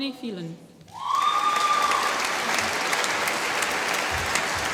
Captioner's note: applause